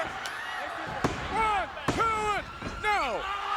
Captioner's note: hand tapping